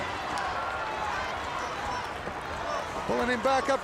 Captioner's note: crowd cheering